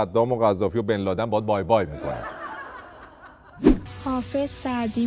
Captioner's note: laughter